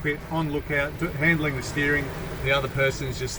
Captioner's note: waves gushing